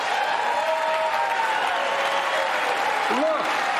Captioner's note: laughter and applause